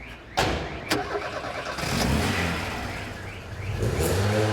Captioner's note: engine rumbling